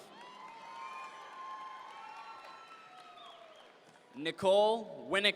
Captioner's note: audience members cheer